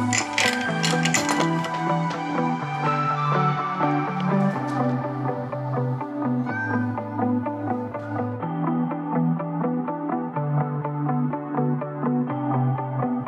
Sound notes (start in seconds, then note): 6.4 cat meows; 8.5 upbeat music continues